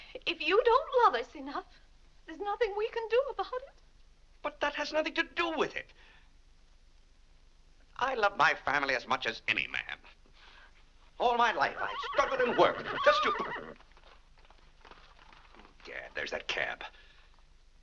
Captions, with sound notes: If you don't love us enough, there's nothing we can do about it. - But that has nothing to do with it! I love my family as much as any man. All my life I've struggled and worked just to-- (horse whinnying) Eh gad, there's that cab.